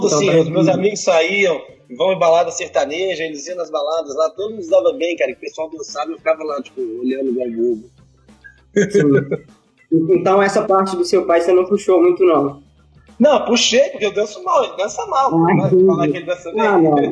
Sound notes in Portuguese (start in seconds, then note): 8.7 risos